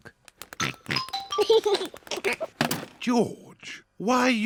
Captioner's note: oinks and giggles